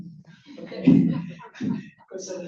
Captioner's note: laughter